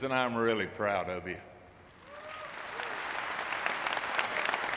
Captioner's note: audience clapping